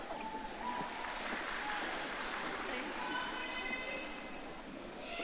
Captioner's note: audience applauding